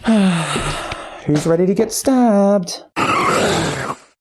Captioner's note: sigh